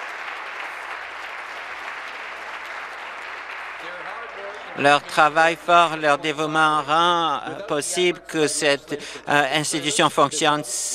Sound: applause

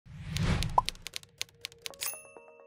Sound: swoosh; pop; gentle music

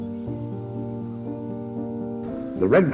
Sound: voice of Dwight D Eisenhower

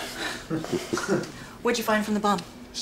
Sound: laughing

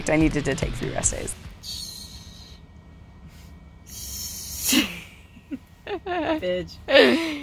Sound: laughs

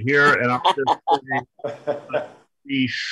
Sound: muffled by laughter

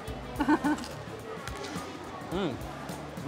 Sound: laughs

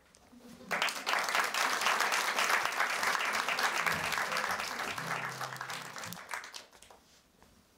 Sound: applause

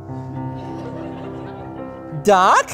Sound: audience laughing

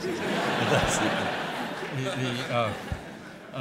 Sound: laughter

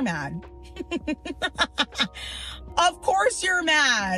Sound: laugh

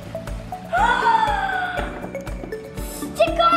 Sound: gasping

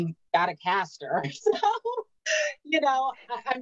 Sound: laughing

